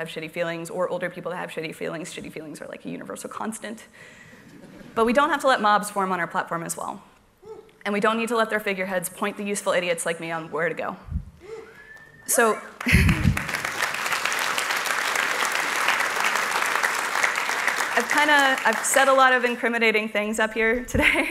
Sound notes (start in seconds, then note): 14.5 cheers and applause